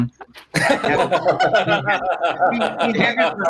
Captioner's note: laugh